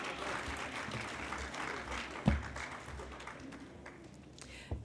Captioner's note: applause